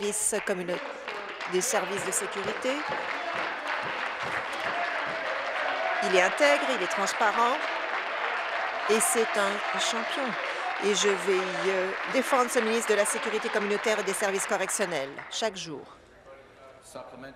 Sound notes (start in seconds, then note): 0.0 applause; 6.6 applause